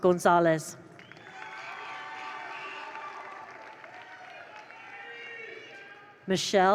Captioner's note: attendees applaud; attendees cheer